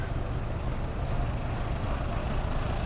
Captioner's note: truck engines